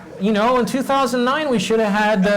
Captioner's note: laugh